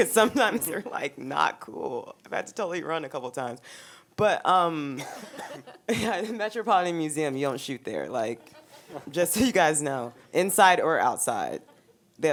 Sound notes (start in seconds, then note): 4.9 giggling; 5.0 laughing